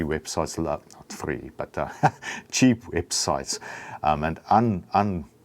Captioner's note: laughs